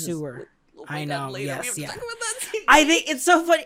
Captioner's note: strained